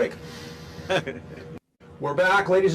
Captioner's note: laughing